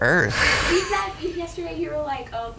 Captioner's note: laughs